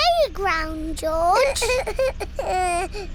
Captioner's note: splutters